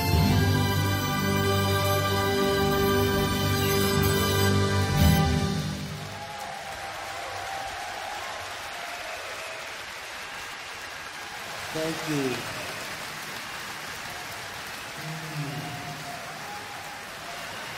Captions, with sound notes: (audience applauds and cheers) Thank you, thank you. (audience applauds and cheers)